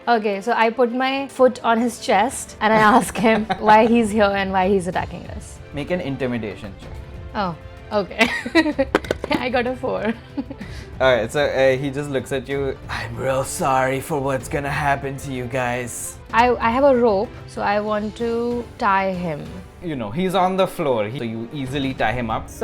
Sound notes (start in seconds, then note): 8.2 laughs